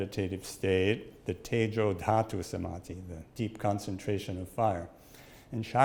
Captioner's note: speaks in Sanskrit